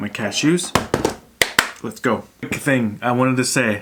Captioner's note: claps